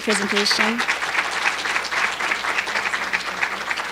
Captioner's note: applause